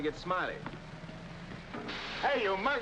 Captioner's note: steam hissing